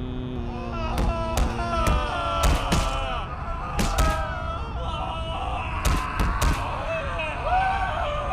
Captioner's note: sounds of pain